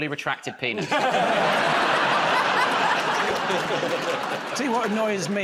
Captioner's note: laughter